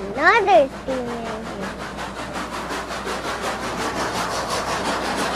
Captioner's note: train huffing and whirring